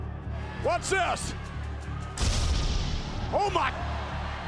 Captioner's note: loud bang